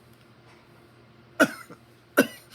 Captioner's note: coughing